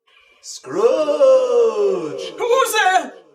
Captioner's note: echoing voice